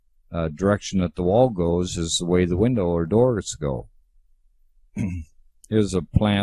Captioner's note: clears throat